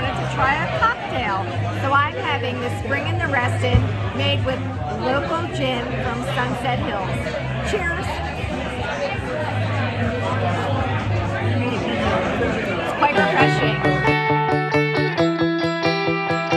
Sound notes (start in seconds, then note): 8.7 people chattering; 12.9 upbeat music